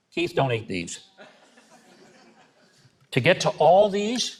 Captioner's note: audience chuckling